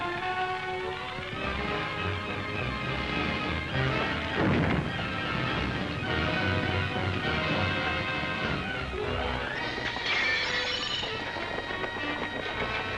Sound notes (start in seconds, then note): 0.0 dramatic music; 4.3 crash; 5.3 dramatic music; 10.0 glass breaking; 11.3 dramatic music